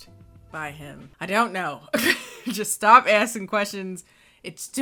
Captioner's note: laughs